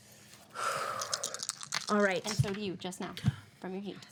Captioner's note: dice rattle